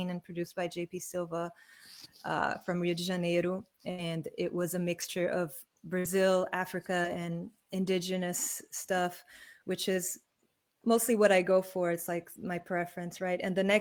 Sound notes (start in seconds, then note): none